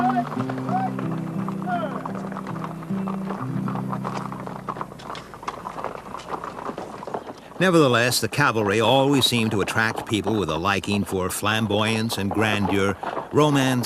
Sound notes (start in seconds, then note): 0.1 soft chattering; 4.0 horse hooves clop